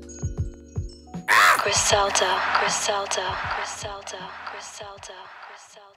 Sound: echoes and fades

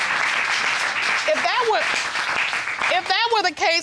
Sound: audience applauding

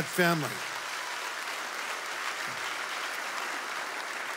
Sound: audience applauds

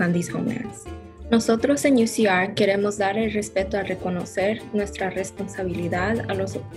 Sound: speaks in foreign language

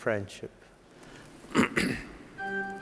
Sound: clearing throat

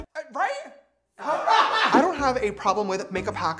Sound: laughter

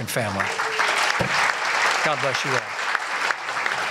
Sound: applause

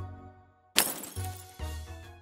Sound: light crash

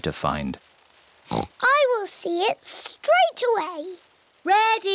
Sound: oinks

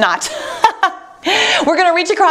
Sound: laughing

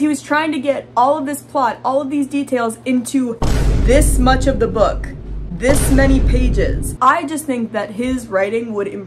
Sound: boom

